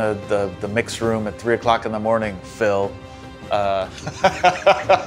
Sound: laughs

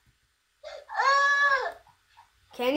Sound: screams

